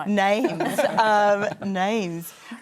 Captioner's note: laughter